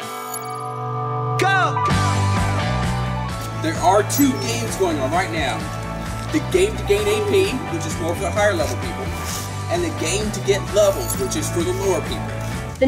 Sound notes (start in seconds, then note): 0.2 exciting music; 3.6 voiceover